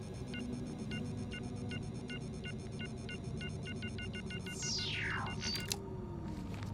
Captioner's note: beeping quickens; zapping sounds